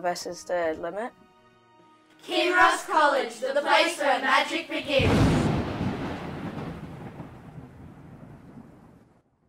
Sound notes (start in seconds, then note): 4.9 thunder